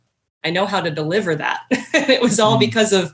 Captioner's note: laughs